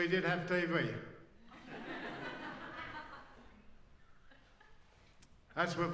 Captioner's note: laughs